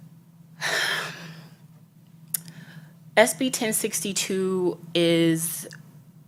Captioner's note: sighs